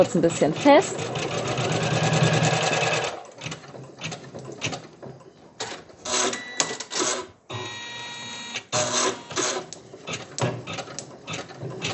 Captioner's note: machine noises